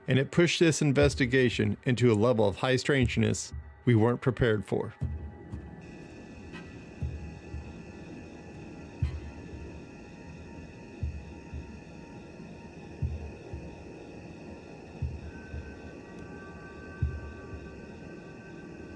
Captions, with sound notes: And it pushed this investigation into a level of high strangeness we weren't prepared for. [tense music] [crickets chirping]